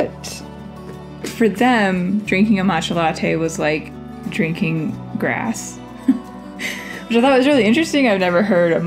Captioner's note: laugh